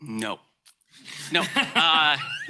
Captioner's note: laughter